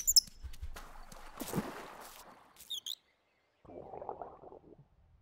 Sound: water splashing

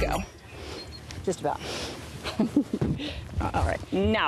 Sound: chuckles

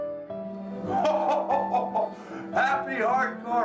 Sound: laughs; chuckles

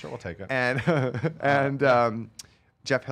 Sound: laughing

